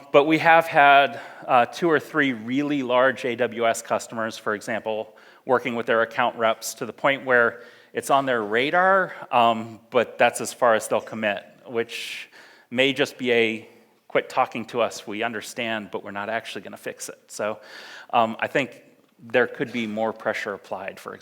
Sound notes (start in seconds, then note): none